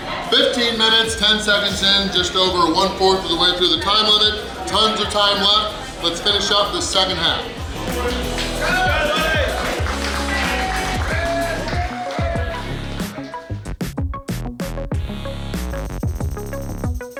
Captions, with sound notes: 15 minutes 10 seconds in. Just over 1/4 of the way through the time limit. Tons of time left; let's finish up the second half!! [Cheering & Clapping]